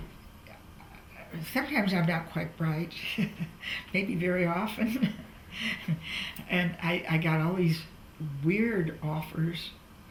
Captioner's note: laughs